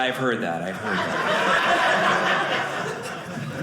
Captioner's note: audience laughing